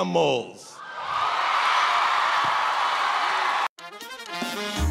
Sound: cheers and applause

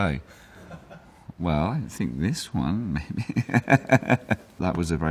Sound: laughs

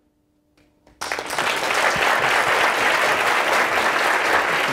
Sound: audience applauding

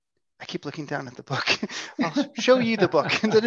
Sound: laughs

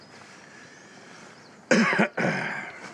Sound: coughs

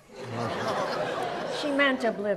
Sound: audience laughs

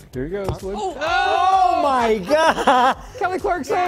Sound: laughter

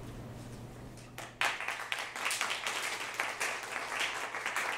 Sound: clapping

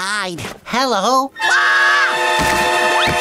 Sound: screaming

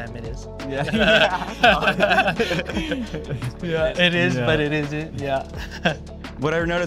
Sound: all laughing

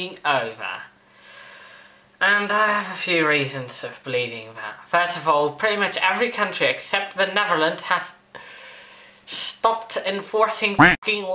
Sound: quack

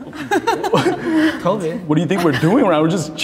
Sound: group chuckling

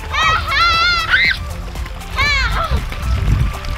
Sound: girl screams

